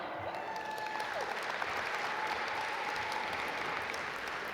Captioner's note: audience applaud